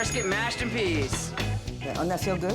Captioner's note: bell dings; plate clatters